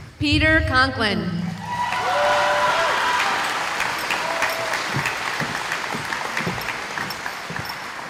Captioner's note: cheering